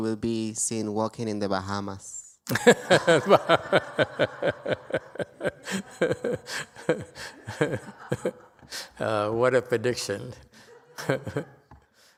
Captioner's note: laughter